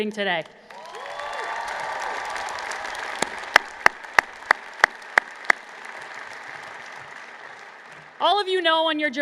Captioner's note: applause